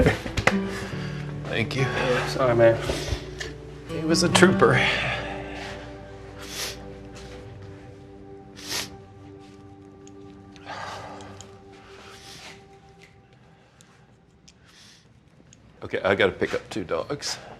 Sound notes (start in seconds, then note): 5.5 choking up; 10.5 sniffling